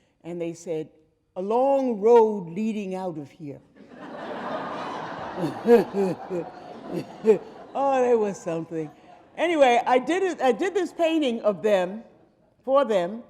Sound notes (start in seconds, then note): 3.8 audience laughing